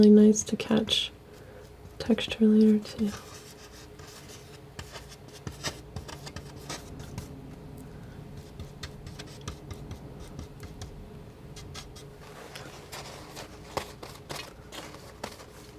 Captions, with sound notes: nice to catch texture later too. [scratching]